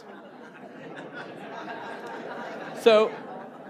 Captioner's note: laughter